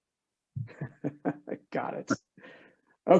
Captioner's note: laughing